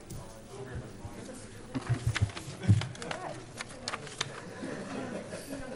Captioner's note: convivial chatter and laughter